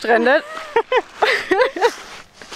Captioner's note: laughter